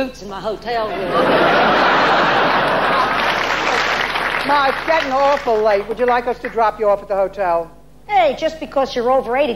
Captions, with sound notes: in my hotel room. (audience laughing) Now, it's getting awful late. Would you like us to drop you off at the hotel? Hey, just because you're over 80